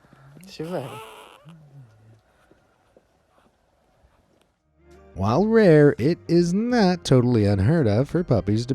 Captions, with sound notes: (farm speaking in foreign language) (puppy squeaking) While rare, it is not totally unheard of for puppies